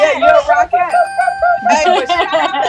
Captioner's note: bell dings; women laugh